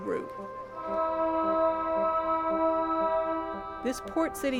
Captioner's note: ship horn sounds